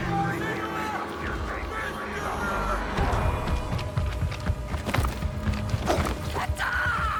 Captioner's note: screaming